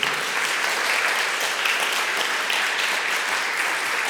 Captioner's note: applause